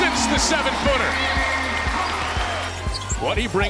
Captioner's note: cheering